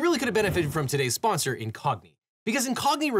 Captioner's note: air whooshes